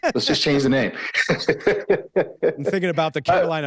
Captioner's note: laughs